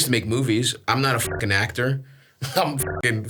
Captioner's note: beeps